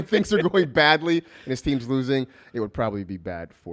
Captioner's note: laughs